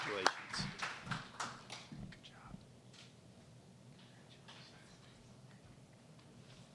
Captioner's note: applause